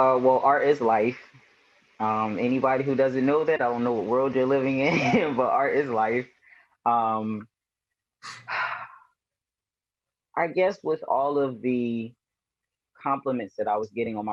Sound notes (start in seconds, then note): 5.5 chuckles; 8.2 sighs